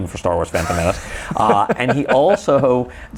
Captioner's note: laughs